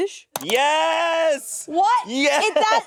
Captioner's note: mouse clicking